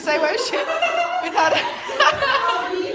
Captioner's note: laughter